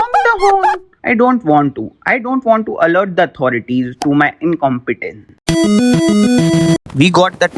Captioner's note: panicking